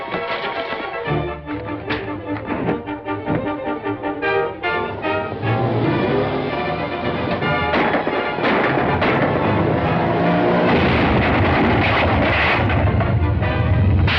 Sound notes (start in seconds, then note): 1.5 punch thuds; 7.5 gunshots; 10.5 truck crashes